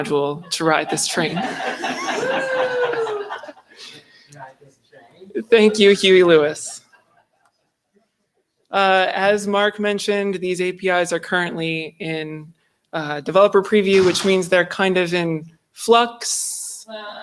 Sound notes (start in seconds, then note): 6.6 laughter